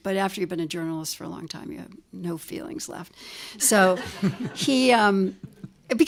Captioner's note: laugher